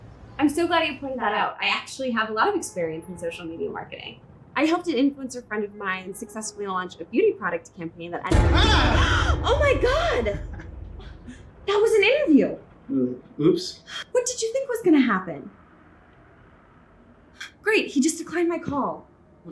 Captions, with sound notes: I'm so glad you pointed that out. I actually have a lot of experience in social media marketing. I helped an influencer friend of mine successfully launch a beauty product campaign that I, - (dramatic music) - Ah! - (gasps) - Oh my God! That was an interview. Oops. What did you think was gonna happen? Great, he just declined my call.